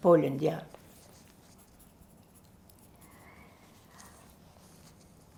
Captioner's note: pauses 6 seconds